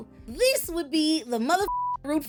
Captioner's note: beep